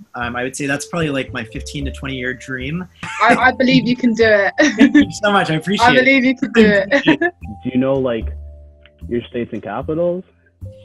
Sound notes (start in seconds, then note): 4.3 laughs